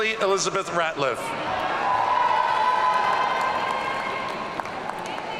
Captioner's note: audience cheering